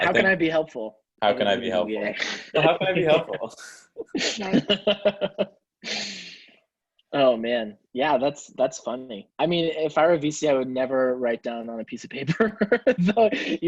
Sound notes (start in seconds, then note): 4.0 laughing